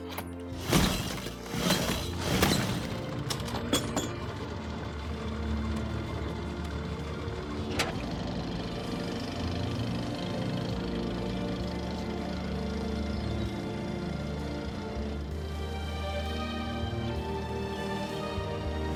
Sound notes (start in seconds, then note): 0.0 engine cranks; 3.5 engine starts